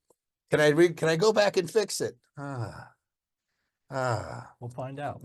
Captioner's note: sighs